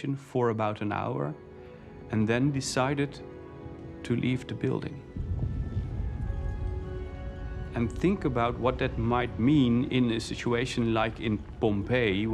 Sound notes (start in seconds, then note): 5.0 rumbling